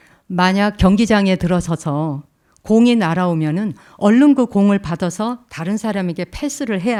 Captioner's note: speaking in Korean